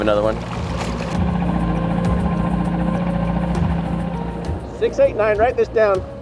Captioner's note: boat engine humming; calm music